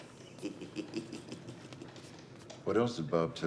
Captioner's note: chuckling